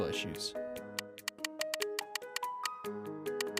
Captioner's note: spinning wheel clicks